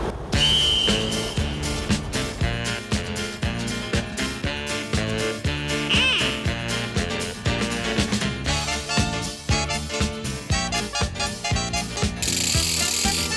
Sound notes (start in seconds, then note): 11.0 engine revving